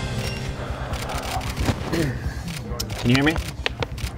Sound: crowd murmuring; camera shutter clicking

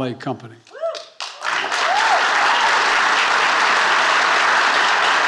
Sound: attendees applauding

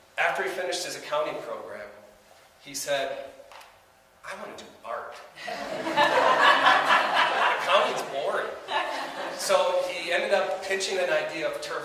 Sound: audience laughs

